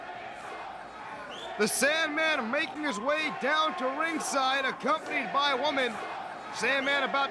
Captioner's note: crowd chanting